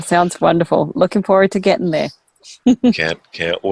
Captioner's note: chuckles